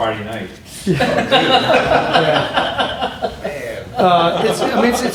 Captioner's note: laughter